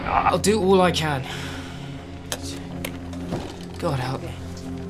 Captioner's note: sigh